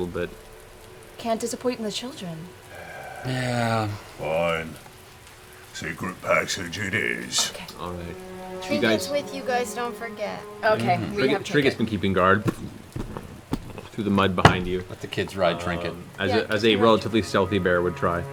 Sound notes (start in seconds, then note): 2.6 sighs